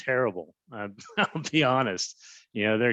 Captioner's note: laughs